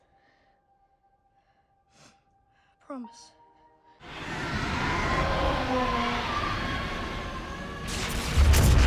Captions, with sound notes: - Promise? - Promise. (roaring)